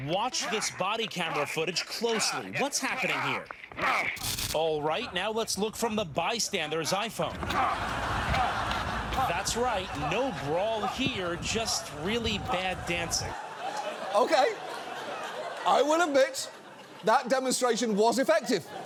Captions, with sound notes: Watch this body camera footage closely. -What's happening here? -(GRUNTING) All right, now let's look from the bystander's iPhone. (STUDIO AUDIENCE LAUGHS) That's right, no brawl here, just really bad dancing. Okay. I will admit, that demonstration was effective.